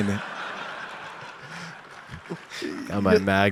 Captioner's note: audience laughs